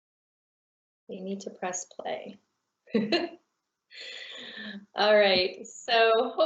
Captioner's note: laughing